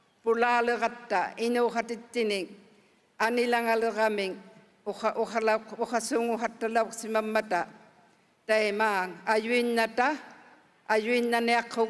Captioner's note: speaking indigenous language